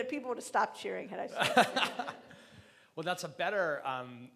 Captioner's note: laughing